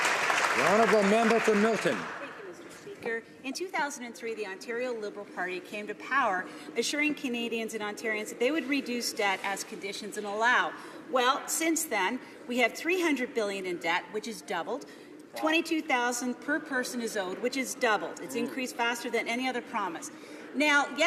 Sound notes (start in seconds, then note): 2.9 some Applause